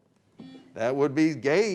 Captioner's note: beep